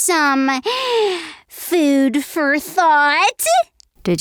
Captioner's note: gasps